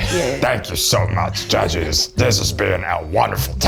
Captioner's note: in a puppet voice